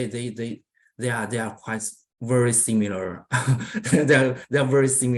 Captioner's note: laughs